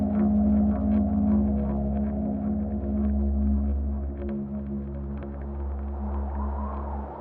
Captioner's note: gentle music continues; wind whistling continues